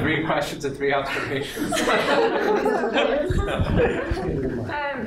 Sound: laughter

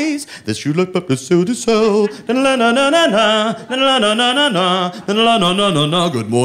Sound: humming " "

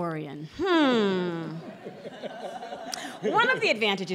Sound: laughter

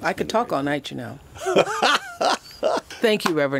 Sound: laughs

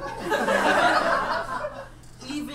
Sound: audience laughs

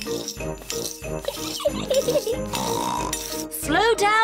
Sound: giggles and snorts

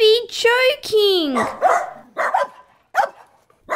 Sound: barking

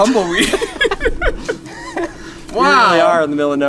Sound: group laughs

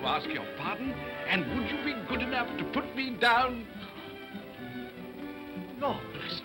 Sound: whispers

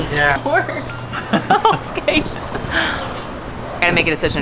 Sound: laughs

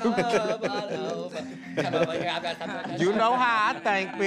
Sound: laughs

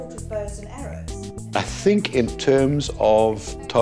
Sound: background Conversation

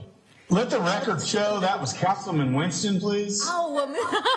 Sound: laughter

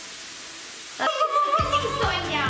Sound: yells

